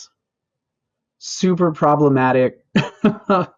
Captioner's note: laughs